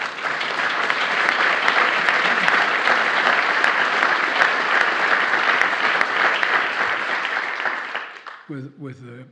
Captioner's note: applause